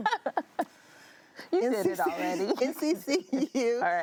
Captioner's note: laughing